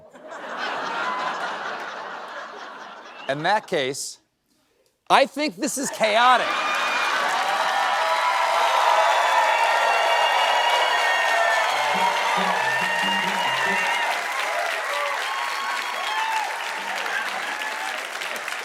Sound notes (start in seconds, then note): 10.8 cheering